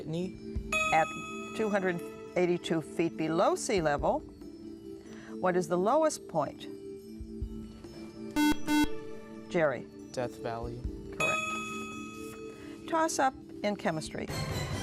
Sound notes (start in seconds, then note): 8.3 buzzer